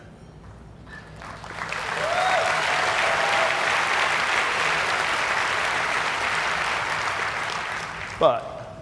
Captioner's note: cheers and applause